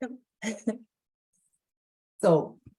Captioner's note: laughs